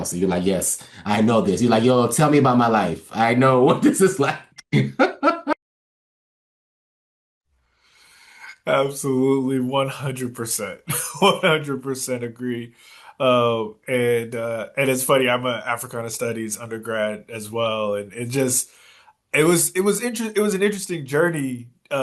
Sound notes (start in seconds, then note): 4.7 laugh